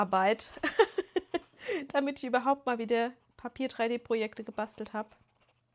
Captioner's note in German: gelächter